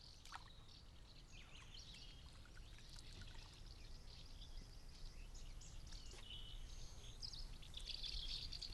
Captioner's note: birds singing